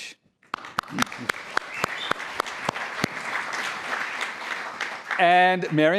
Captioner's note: applause